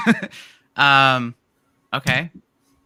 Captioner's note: laughs